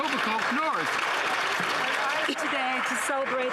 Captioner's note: some Applause